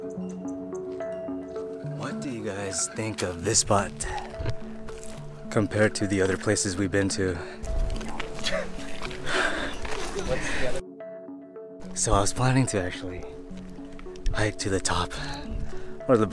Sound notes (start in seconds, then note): 7.3 breathing heavily